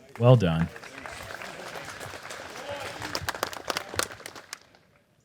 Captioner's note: applause